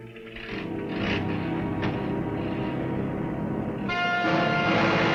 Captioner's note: car engine revving; upbeat music